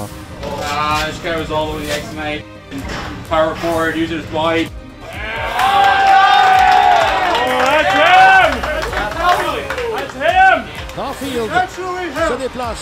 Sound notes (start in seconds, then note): 5.0 cheers